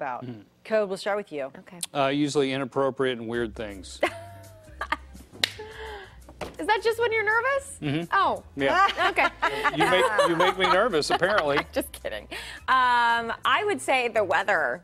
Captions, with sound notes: THANK YOU. IT'S TIME FOR THIS HOUR'S QUESTION. WHEN YOU ARE NERVOUS, WHAT DO YOU TEND TO TALK ABOUT? CODY? USUALLY INAPPROPRIATE AND WEIRD THINGS. [LAUGHTER]